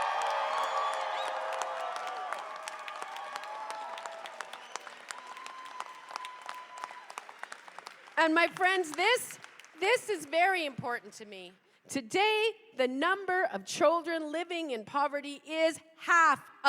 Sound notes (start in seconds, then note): 1.5 cheers and applause